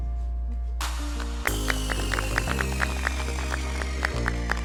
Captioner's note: applause